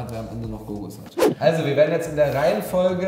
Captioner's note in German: woosh